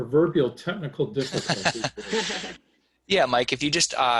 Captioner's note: laughing